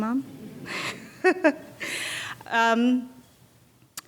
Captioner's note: laughing